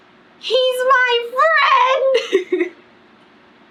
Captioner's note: laughs